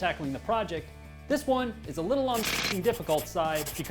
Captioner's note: jackhammer pounding